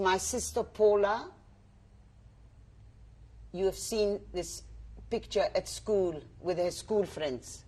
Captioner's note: pauses for 3 seconds